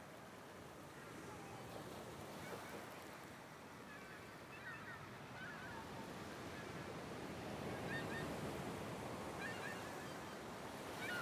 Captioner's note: waves and Birds